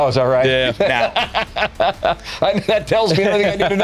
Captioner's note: laughter